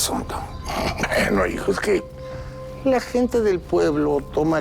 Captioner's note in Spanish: Risas